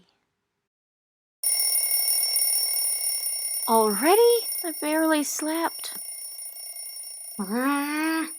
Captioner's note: alarm clock goes off